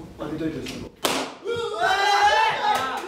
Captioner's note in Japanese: パンッ！：風船の割れる音